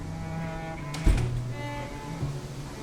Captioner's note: door closing